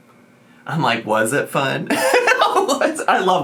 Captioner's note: laughs